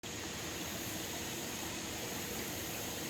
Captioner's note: the sounds of flowing water